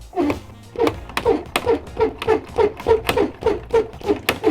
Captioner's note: squeaking